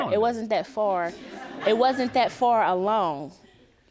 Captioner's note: audience chuckles